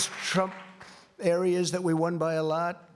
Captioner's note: applause